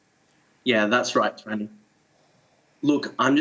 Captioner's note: breaking up